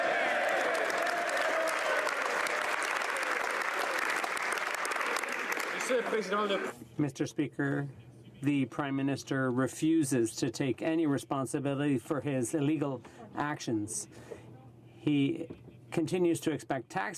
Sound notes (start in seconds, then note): 3.8 some Applause